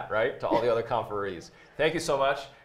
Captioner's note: laughs